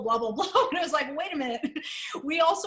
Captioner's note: laughter